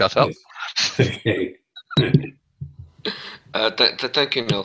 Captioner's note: laughs